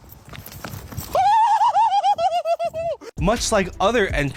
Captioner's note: laughing